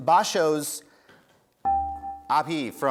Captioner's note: dinging